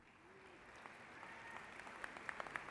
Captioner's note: applause